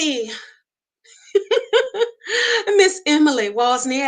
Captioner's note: laughs